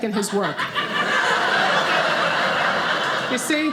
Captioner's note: audience laughing